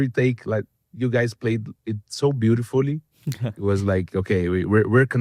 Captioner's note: laughs